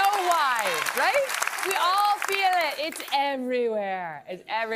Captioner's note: cheers and applause